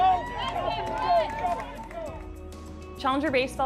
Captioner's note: cheering